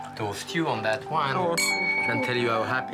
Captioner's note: glass clinks